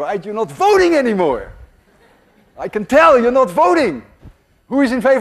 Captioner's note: class laughs